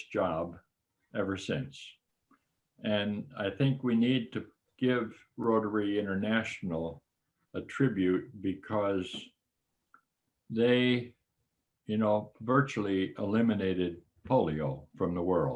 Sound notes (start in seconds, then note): none